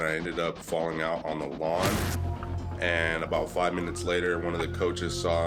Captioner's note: siren blares